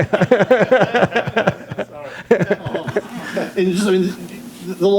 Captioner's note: laughs